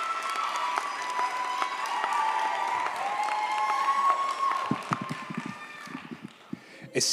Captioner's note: audience cheers; audience applauds